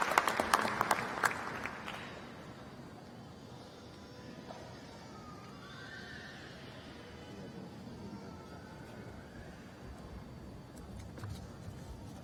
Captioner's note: applause